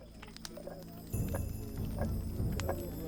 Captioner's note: millstone tapping